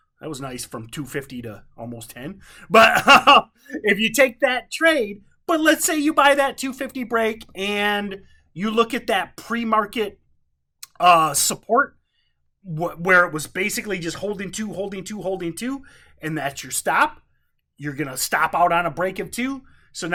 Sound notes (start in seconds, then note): 2.7 laughs